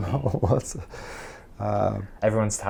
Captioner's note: laughs